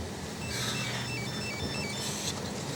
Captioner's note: phone ringing